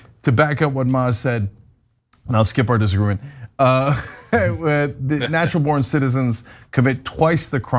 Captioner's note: laugh